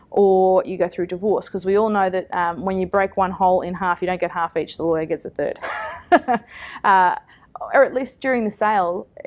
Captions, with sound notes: Or you go through divorce; because we all know that when you break one whole in half, you don't get half each, the lawyer gets a third (laughs), or at least during the sale